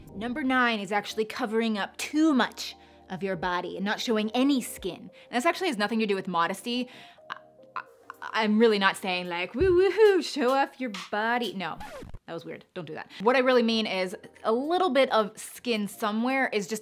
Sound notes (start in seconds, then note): 11.7 record scratch